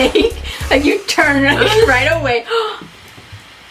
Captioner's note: while laughing; laughs; gasps